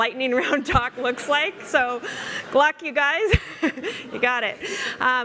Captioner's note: laughs